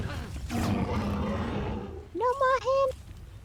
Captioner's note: growling